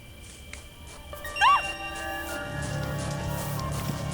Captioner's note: footsteps